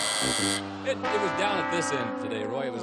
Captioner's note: buzz